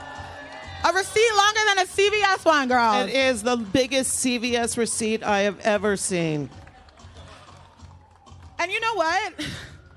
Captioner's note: applause